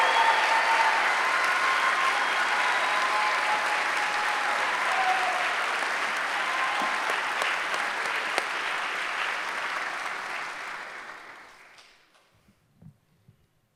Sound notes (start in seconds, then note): 0.1 cheering; 8.9 cheering